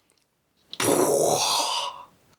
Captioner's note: makes explosion sound